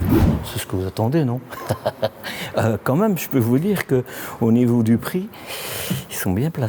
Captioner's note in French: rires